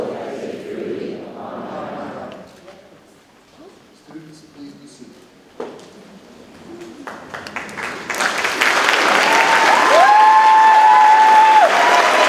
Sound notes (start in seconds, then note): 8.1 audience cheers